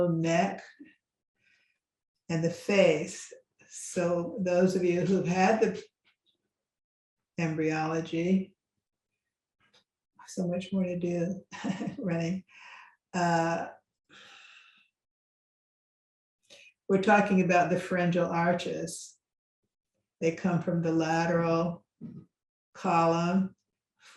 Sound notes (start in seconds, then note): 11.5 laughs